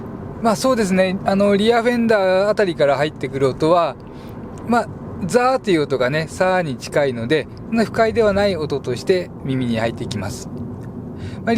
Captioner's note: road noise